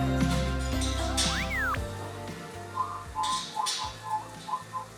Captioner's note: Droid Whistles; T90 Pro Whistling a Song